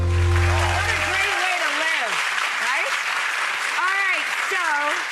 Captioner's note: uplifting music; audience applauds